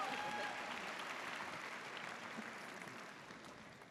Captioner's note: audience cheers